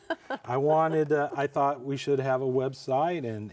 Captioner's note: chuckles